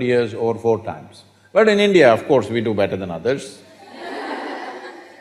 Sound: laughter

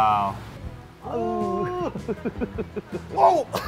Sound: laughs

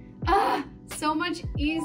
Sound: groans

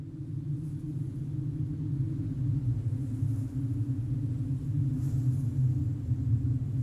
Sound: wind blowing

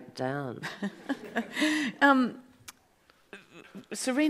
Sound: audience laughs

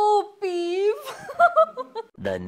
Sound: laughs

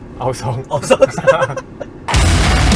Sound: laughs

